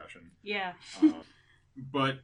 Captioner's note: laughs